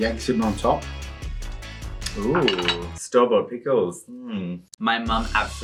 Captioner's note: dishes clang